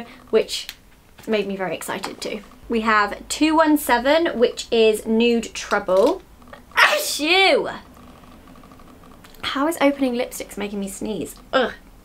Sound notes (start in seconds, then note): 6.8 sneezes